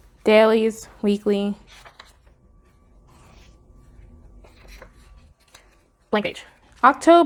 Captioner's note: flipping pages